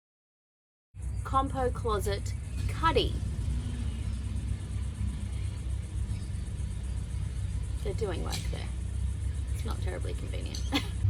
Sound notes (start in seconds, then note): 1.0 engines and sounds of digging nearby; 10.5 scoffs